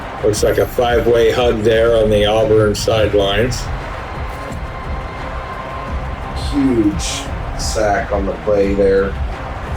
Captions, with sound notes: Looks like a five way hug there on the Auburn sidelines. [Crowd Noises] Huge sack on the play there.